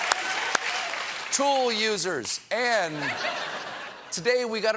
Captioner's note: laughter